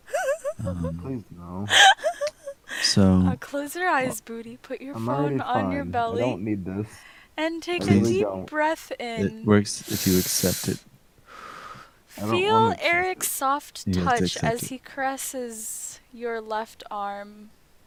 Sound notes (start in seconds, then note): 9.8 exhale; 9.8 inhale